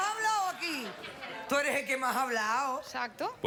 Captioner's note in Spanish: Carcajadas